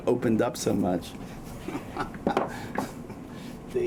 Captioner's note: laughs